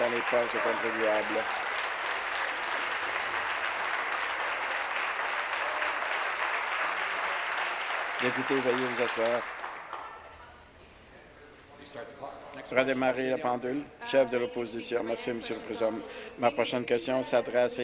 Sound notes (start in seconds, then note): 4.0 applause